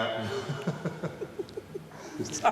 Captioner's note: rowling & photographer laughing